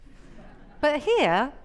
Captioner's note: audience chuckling